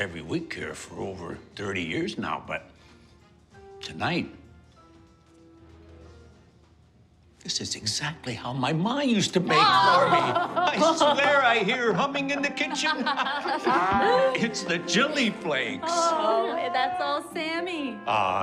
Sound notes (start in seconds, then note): 13.2 laughing